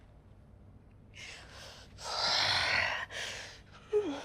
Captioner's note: breathes heavily